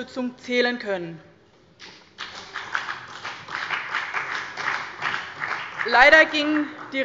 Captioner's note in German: Beifall bei dem BÜNDNIS 90/DIE GRÜNEN und der CDU